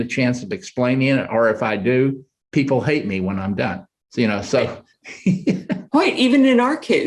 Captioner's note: chuckles